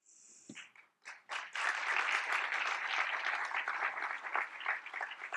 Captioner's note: applause